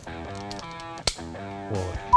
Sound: can pops

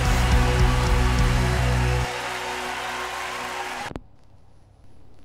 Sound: audience applauds; music stops

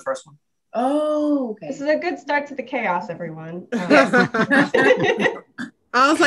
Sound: everyone laughs

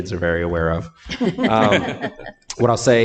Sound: group laughing

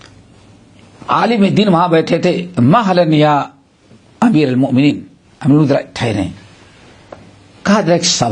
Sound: in Arabic

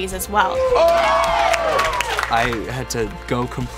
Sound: cheering

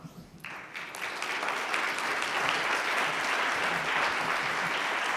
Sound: audience applauds

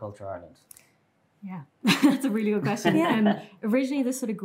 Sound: laughs

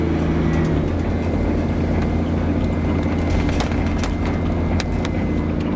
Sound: truck engine roaring

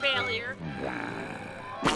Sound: sighs

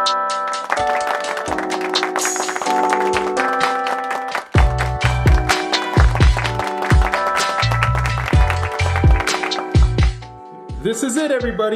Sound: applause

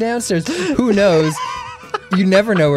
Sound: laughing

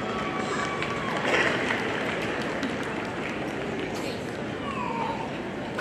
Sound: audience applauding

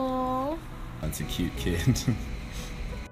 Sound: chuckles

